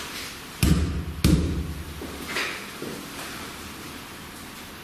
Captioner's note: loud banging